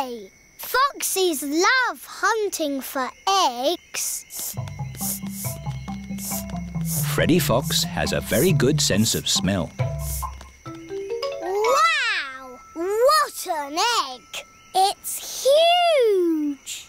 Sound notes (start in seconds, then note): 5.0 sniffing